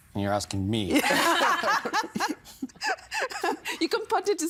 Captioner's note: both laughing